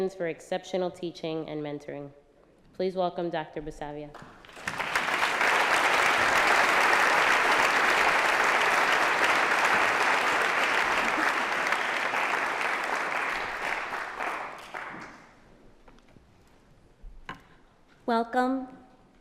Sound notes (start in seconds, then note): 4.6 applause